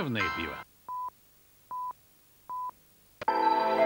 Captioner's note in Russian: писк